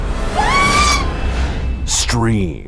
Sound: scream

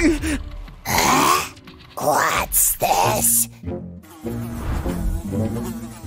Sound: groans

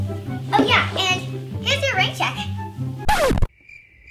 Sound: disc scratch; crickets chirping

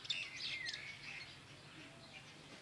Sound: birds singing

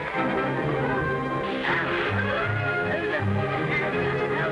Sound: suspenseful orchestral music; ink splashing

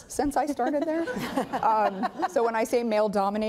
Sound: laughing

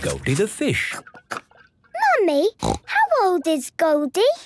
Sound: snorting

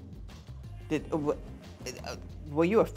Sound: stammers

